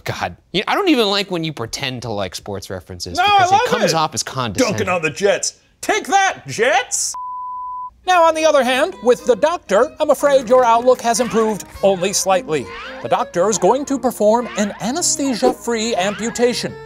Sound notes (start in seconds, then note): 7.1 beep